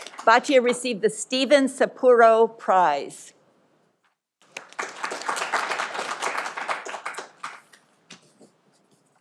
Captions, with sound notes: Batya Received the Steven Sapporo Prize. (audience applauding)